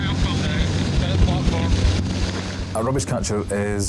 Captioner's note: lifeboat engine whirring